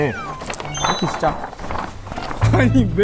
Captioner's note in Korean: 찰싹